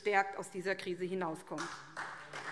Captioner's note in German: Beifall SPD